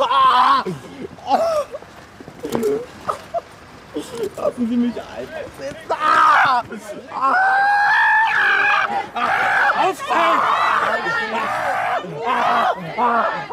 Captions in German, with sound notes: *Schluchzen* Lassen Sie mich einfach sitzen. *schmerzvoller Schrei* *schmerzvoller Schrei*